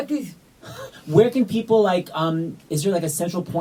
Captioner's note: laughs